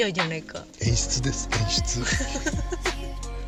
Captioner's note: laughs